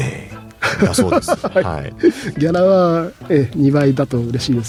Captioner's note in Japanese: 笑い